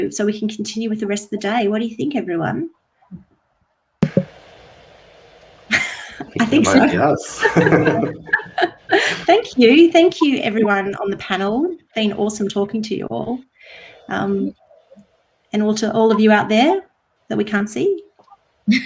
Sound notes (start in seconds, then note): 5.7 chuckles; 8.1 all chuckling